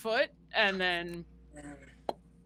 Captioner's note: imitates popping